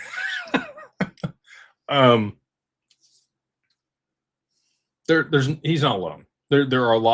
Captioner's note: laughter